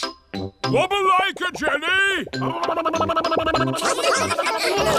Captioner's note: vocalizing; all laughing and vocalizing